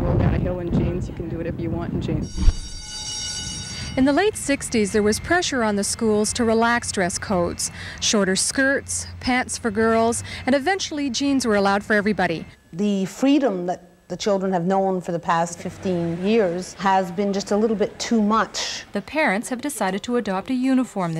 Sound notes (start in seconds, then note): 2.6 school bell rings